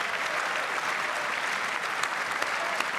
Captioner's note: applause